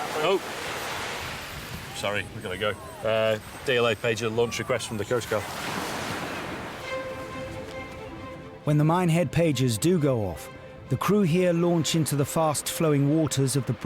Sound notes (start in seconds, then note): 1.2 pager beeping; 5.5 waves crashing; 6.4 upbeat instrumental music